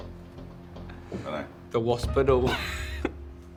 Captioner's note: chuckles